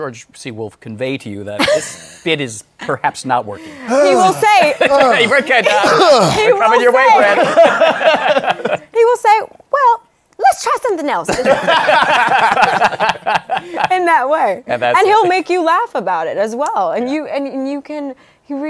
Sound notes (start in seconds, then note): 3.5 sighs dramatically; 7.0 laughter; 11.3 laughter